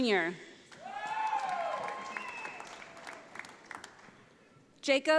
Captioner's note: audience applauds